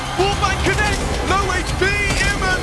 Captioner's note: gun firing